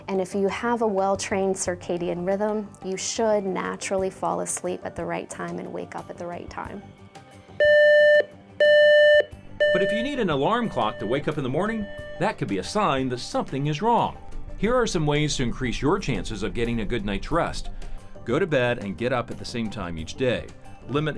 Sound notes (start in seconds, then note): 8.6 alarm beeps